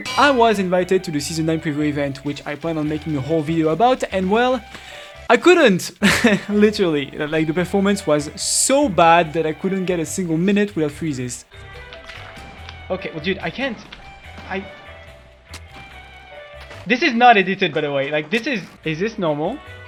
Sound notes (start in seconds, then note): 5.9 chuckle